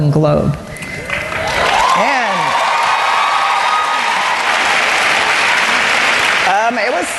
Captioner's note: cheering and Applause